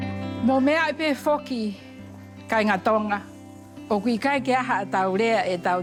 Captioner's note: speaking in local language